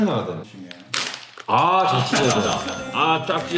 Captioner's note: rip!